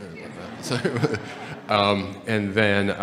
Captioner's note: audience laughing